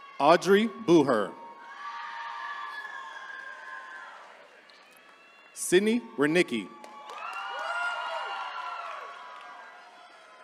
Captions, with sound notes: Audrey Booher. (attendees cheering) Sydney Wiernicki. (attendees cheering)